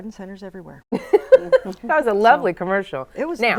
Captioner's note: laughs